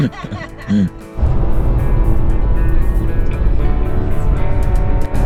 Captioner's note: laughs